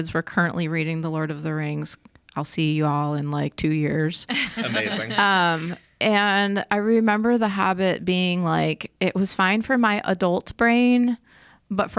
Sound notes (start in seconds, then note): 4.3 podcasters laughing